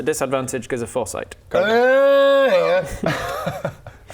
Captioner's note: urrggrgrhhghhhhghhrh